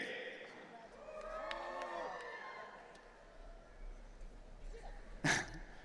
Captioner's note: audience cheering